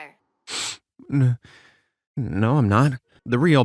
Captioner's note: sniffs